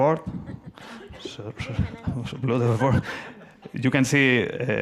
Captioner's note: audience laughs